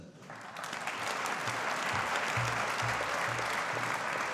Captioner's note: audience applauding